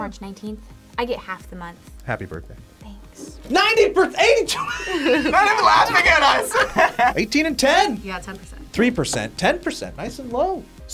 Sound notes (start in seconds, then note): 4.2 laughs